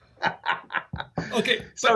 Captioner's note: laughs